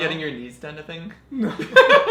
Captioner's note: laughs